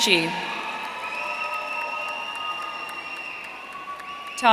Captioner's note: audience cheering